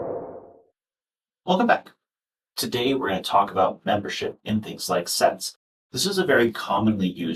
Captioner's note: whoosh sound